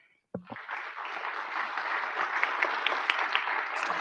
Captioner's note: audience clapping